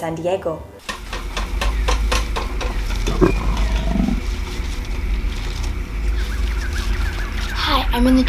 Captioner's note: rustling and jungle themed sounds